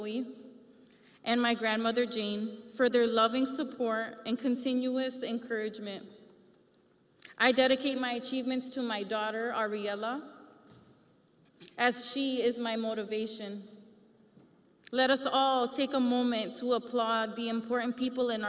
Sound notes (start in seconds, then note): none